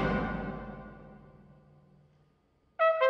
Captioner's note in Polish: Nagła cisza